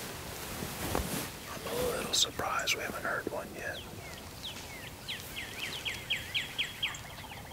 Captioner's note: whispering